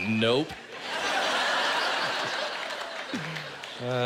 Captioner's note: laughter